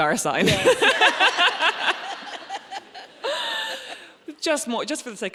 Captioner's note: laughing; laughs